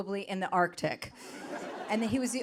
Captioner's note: audience laughing